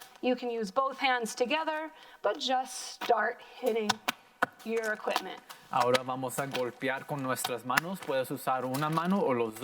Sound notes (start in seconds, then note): 5.7 plastic popping loudly; 5.9 in foreign language